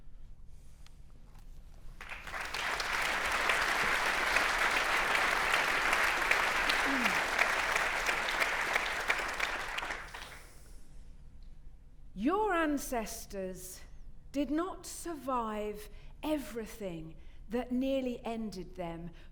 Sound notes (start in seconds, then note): 2.0 audience applauding